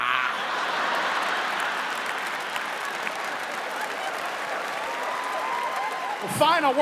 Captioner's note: imitates groaning; audience laughs; audience applauding